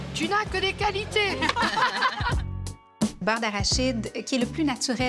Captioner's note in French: rires